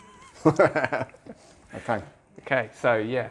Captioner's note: laughs